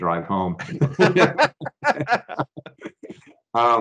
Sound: both laughing

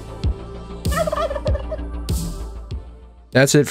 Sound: gobble

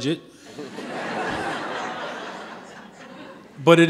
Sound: audience laughing

